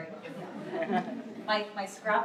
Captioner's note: laughter